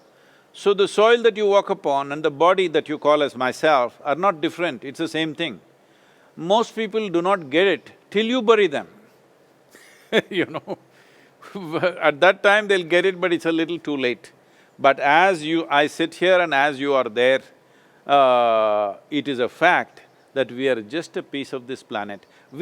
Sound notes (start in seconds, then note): 9.7 laughs